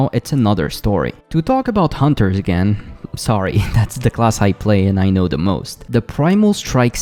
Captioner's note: laugh